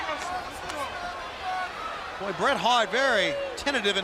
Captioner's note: crowd chatter